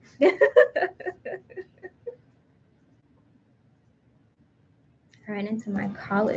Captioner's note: laughing